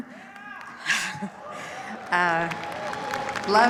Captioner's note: cheers, applause